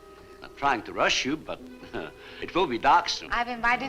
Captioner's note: chuckles